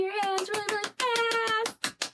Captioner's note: clapping noise